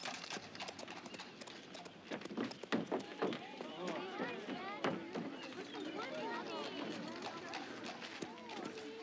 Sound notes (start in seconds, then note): 3.1 people chattering